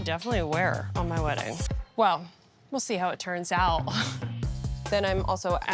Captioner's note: laughs